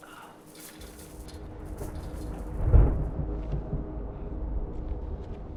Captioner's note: thunder rumbling